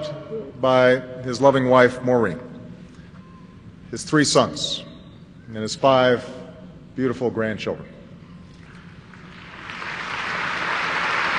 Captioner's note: applause